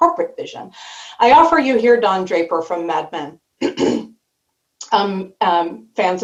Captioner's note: clears throat